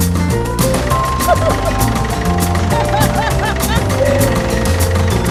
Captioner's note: laughing; giggles